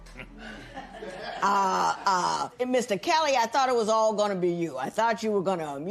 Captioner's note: laughter